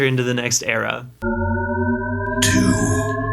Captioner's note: shepard tone